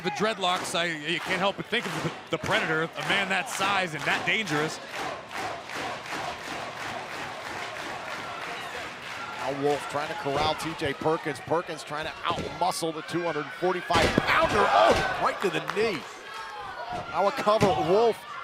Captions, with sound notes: THINK OF THE PREDATOR, A MAN THAT SIZE AND THAT DANGEROUS. >> [CROWD CHEERING] >> NOW, WOLFE TRYING TO CORRAL T.J. PERKINS. PERKIN'S TRYING TO OUTMUSCLE THE 245 POUNDER--OH, RIGHT TO THE KNEE. >> NOW A COVER, WOLFE FOR SANITY